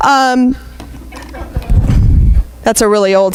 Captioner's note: laughing